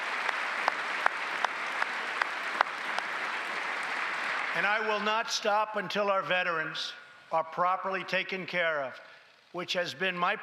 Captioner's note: applause